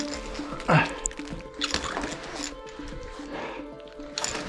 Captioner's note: heavy breathing